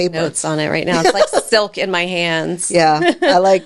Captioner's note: laughing